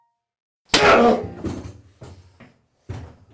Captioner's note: thud